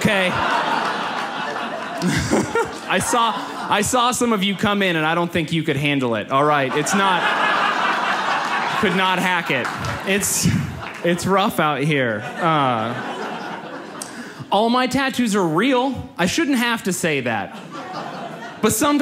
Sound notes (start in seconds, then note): 0.0 audience laughs; 6.9 audience laughs; 12.1 audience laughs